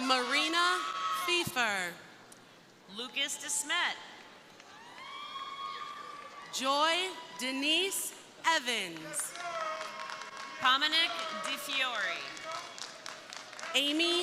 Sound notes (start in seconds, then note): 0.0 crowd cheering; 4.5 crowd cheering; 8.9 crowd applauding